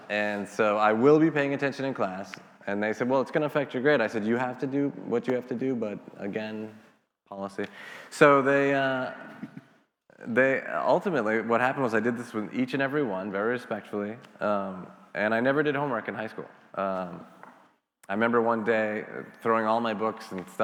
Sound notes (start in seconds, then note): 9.2 laughing